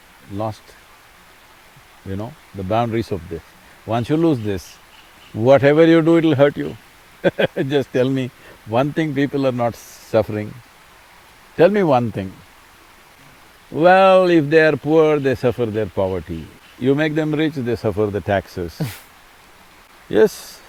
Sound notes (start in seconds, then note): 7.2 laughs